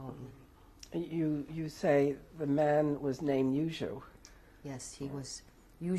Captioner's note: non-english; non-english